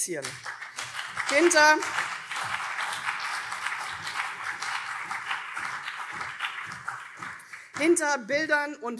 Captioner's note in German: Beifall CDU und SPD